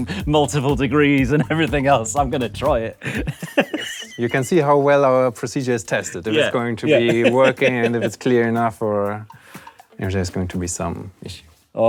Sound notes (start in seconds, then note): 3.5 wheezes; 6.1 laughs